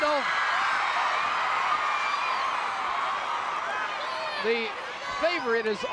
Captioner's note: audience cheering